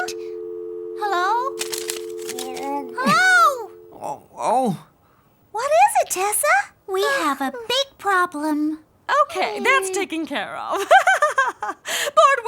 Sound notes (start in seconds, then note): 0.0 dial tone beeping; 3.3 Willy groaning; 11.5 laughs